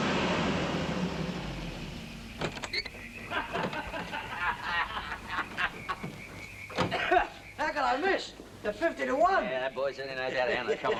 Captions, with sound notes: (drunken laughter) - How could I miss, at 50 to one. - Yeah, that boy certainly knows how to handle it.